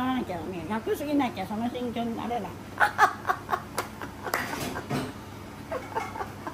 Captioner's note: laugh